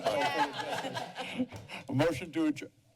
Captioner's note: laughter